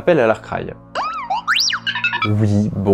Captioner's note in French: R2 râle